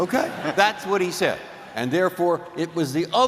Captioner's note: laughter